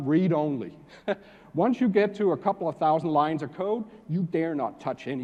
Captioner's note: laugh